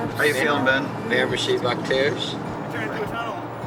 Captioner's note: speaking French